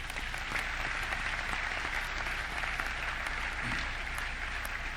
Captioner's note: audience clapping